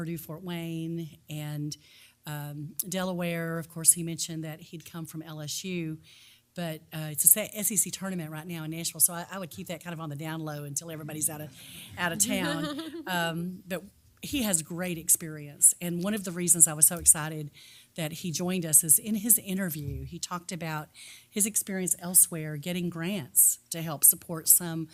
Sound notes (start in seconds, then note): 8.8 laugh